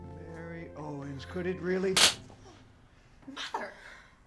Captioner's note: slap